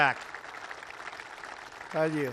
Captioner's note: applause